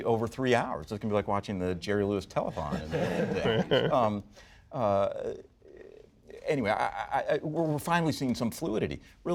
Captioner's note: laughter